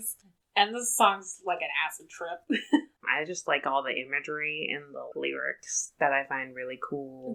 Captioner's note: laughs